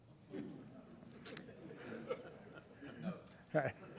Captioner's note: laughing